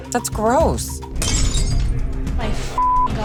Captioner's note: glass shatters